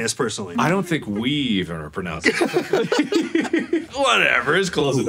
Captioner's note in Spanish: risas